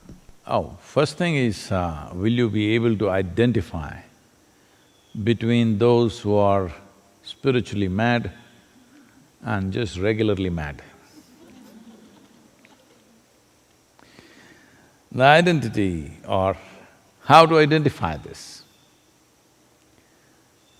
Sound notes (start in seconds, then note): 11.2 laughter